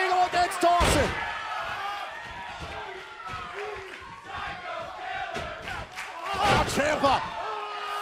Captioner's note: crowd cheering